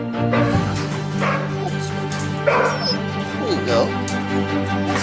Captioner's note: dogs barking